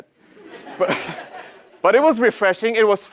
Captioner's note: laugh